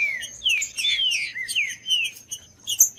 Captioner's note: trinca ferro cantando